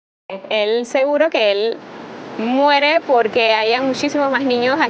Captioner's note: speaking Spanish